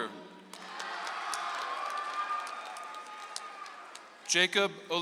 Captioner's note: audience applauds